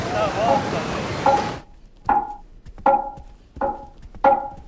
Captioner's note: tapping; tapping